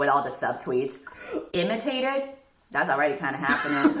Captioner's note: laughs